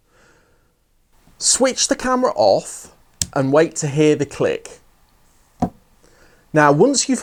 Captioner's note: flicks off switch; click sound